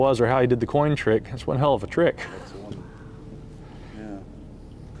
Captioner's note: chuckles